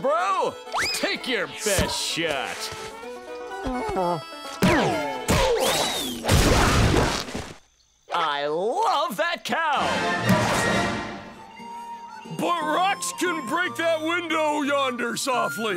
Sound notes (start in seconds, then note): 4.8 grunting